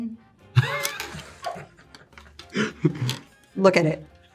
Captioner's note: Jonathan laughing